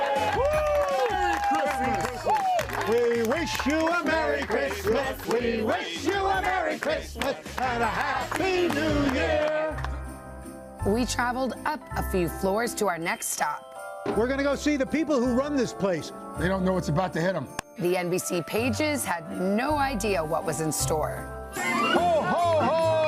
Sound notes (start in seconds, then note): 6.8 cheers and applause